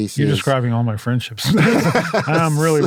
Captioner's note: laugh